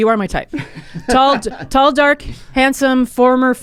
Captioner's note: laughs